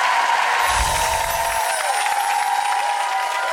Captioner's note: applause